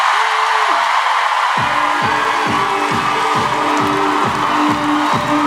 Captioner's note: cheering